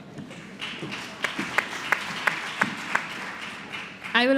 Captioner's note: applause